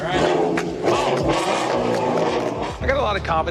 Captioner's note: engine starts